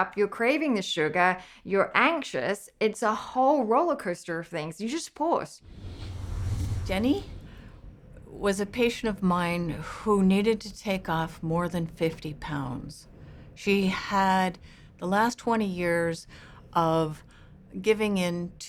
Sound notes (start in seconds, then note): 5.6 whooshing